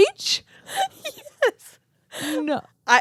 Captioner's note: laughing